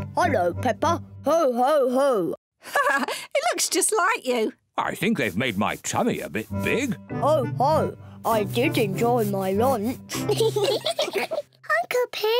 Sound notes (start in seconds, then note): 2.6 laughs; 10.1 all giggle